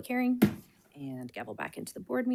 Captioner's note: gavel bangs